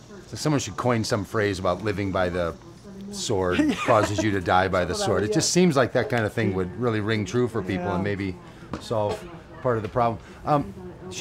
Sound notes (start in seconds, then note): 3.4 laughs